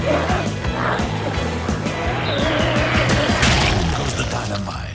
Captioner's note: energetic music continues; glowzies growling